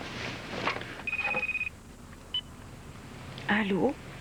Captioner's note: Le téléphone sonne